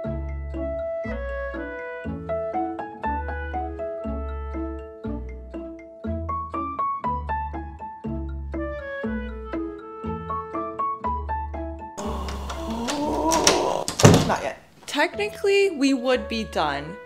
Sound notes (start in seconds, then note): 11.9 gasp; 12.0 door slam